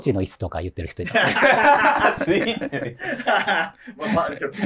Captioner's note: laughing